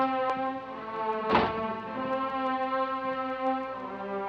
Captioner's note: door slamming